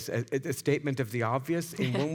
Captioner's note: chuckles